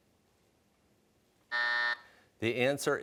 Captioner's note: buzzer